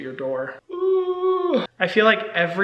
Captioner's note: Hyram groaning